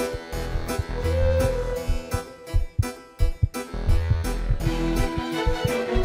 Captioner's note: heart beating